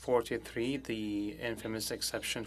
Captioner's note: speaking French